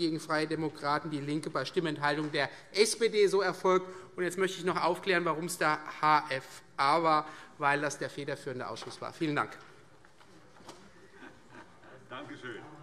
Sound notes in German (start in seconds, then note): none